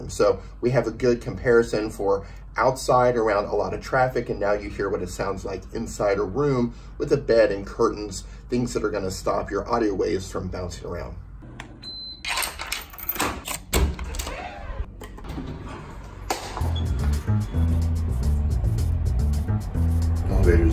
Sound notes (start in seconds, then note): 11.8 air con beeps; 12.2 lock clicking; 16.6 upbeat music